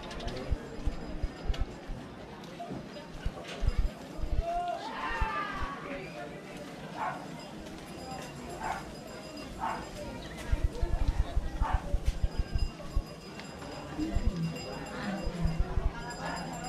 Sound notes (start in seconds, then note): 8.9 dog barking